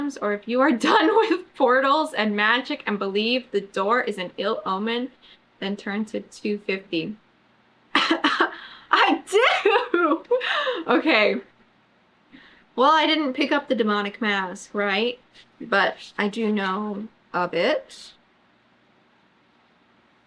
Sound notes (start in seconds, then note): 9.3 laughs